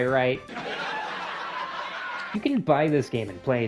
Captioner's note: canned laughter